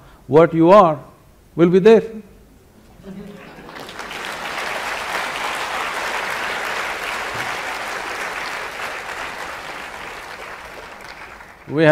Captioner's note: applause